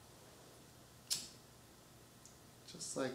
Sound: lighter flickering

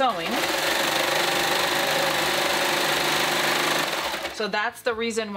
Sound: sewing machine runs

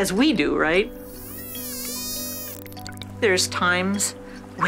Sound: dolphin clicks

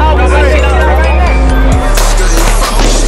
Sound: yelling; gunshots

